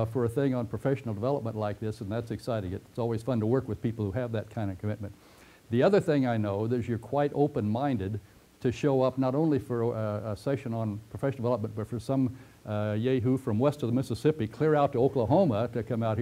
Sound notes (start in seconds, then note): 5.3 pause